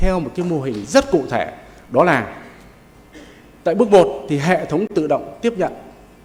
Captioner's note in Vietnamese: hắng giọng